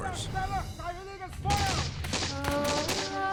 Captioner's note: soldiers shouting; gunshots firing; pensive music